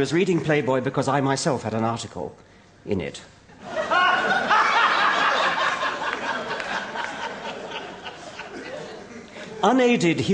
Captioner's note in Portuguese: Risos